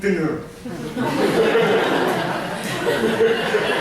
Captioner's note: laughter